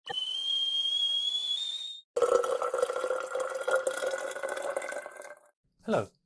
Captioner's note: sound of kettle boiling and water pouring